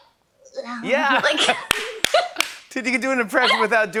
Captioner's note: both laugh